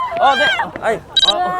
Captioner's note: scared